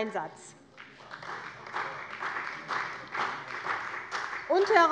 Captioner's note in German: Beifall bei der CDU und dem BÜNDNIS 90/DIE GRÜNEN